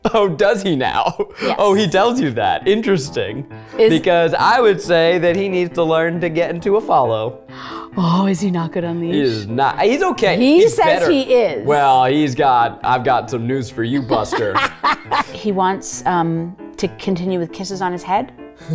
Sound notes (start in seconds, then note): 14.0 laughs